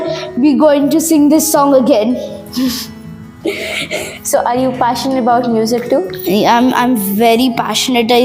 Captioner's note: laugh